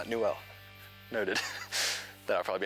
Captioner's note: chuckles